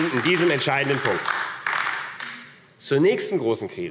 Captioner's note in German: Beifall AfD